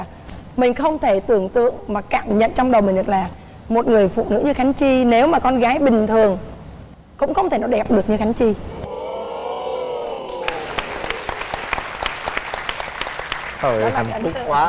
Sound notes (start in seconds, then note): 8.8 cheering; 10.1 applause